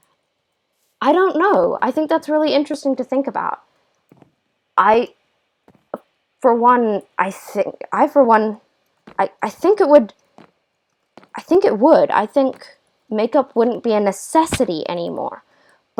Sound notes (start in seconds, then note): 4.3 stuttering